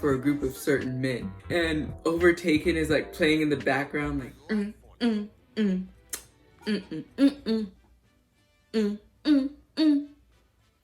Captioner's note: humming overtaken like a nerd